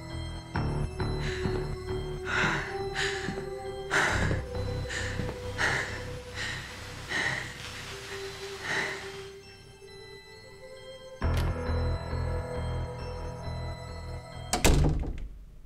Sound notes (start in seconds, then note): 0.9 Jenelle breathing heavily; 1.4 tense sinister music